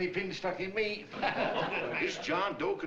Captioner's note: laughter